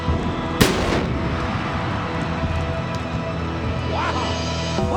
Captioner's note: eerie music; explosives exploding